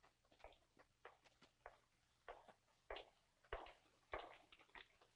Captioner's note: footsteps clanking